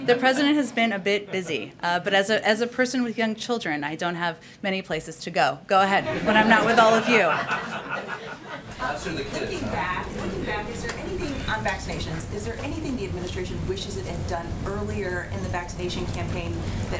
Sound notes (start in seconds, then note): 6.0 laughter